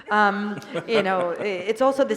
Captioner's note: laughter